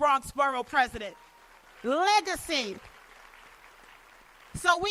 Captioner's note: applause